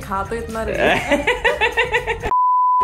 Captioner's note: both laughing